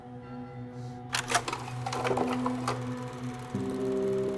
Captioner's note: film reel clacking; bell ringing; pensive music